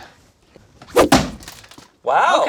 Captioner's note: air whooshing